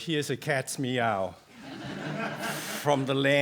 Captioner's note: laughter